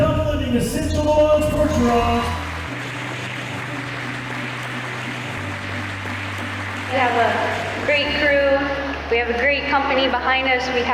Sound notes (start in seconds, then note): 3.5 audience cheering and applauding